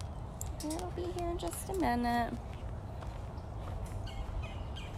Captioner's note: walking sounds